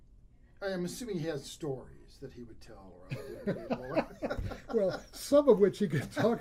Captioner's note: laughs